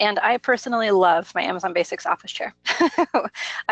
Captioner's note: laughs